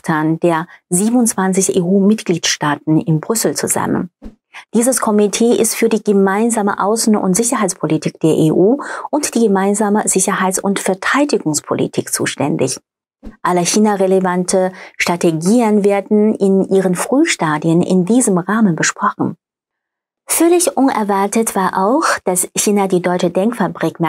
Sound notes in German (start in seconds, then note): 8.8 gasp